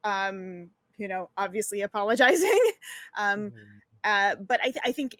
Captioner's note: giggles